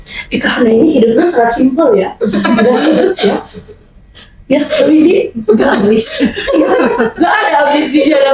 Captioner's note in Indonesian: tertawa